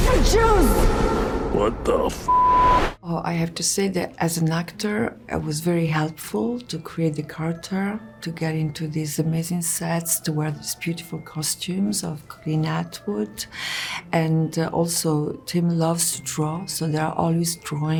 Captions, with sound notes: "Beetlejuice!" "What the (beep)?" Oh, I have to say that, as an actor, it was very helpful to create the character to get into these amazing sets, to wear these beautiful costumes of Colleen Atwood, and also, Tim loves to draw, so there are always drawings